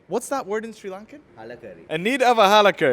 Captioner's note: speaks Sri Lankan